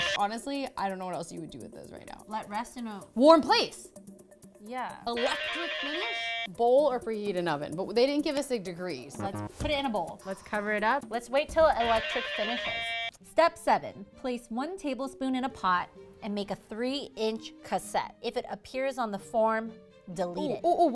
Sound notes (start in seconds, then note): 5.2 guitar riff plays; 9.5 buzzer sounds; 11.9 guitar riff plays